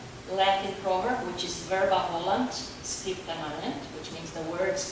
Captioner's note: speaking Latin